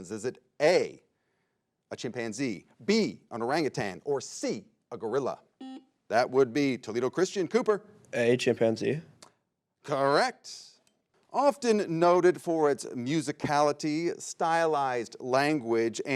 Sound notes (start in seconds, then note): 5.6 buzzer beeps